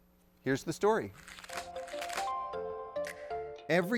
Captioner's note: paper rustles; calm music